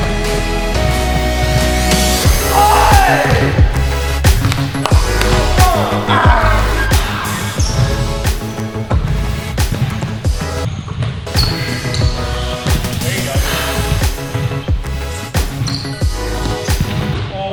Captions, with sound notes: - Aye! (upbeat techno music) (player growls) (upbeat techno music) - There you go. (upbeat orchestral music)